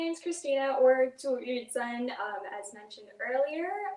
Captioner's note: speaks in foreign language